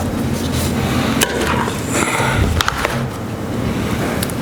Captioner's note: pot scrapes